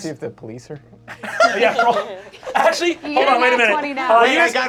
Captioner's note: cast laughing